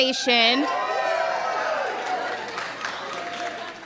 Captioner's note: cheering